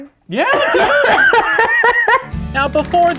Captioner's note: laughs